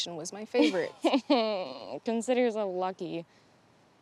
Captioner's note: chuckles